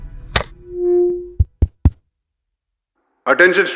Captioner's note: Static